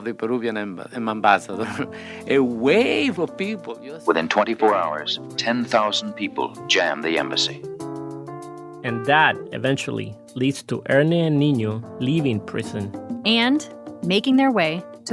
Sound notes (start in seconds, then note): 0.1 archival news audio